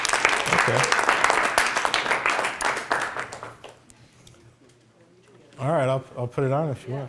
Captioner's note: applause